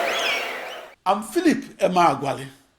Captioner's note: wild applause and cheering for 22 seconds